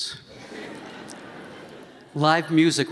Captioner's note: laughter